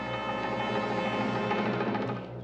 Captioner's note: none